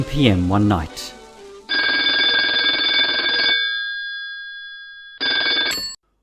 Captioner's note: telephone ringing